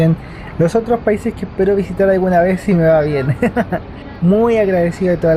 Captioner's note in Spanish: risas